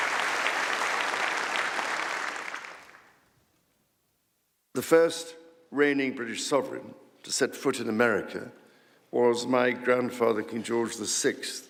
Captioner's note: applause